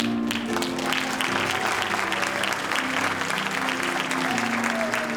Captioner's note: audience applauding